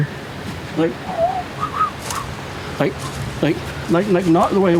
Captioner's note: whistling